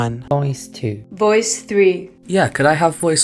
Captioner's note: voiceover